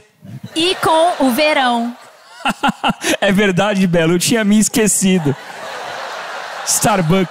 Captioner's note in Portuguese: riso